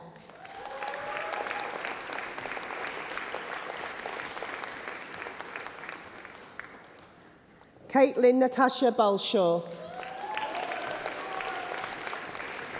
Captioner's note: applause